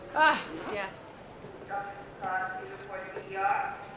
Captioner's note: PA system